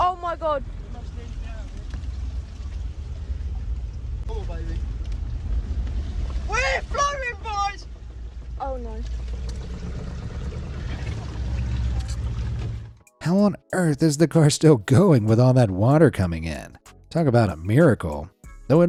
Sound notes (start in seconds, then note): 0.5 motor drones; 10.2 car engine droning